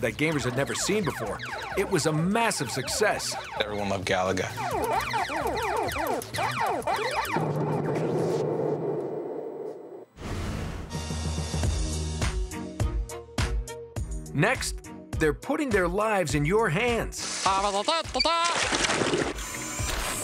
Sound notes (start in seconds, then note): 0.0 arcade music plays; 5.8 arcade sounds; 8.2 explosion; 18.5 singing